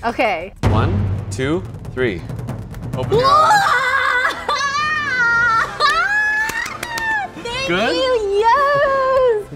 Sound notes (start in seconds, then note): 3.1 yelling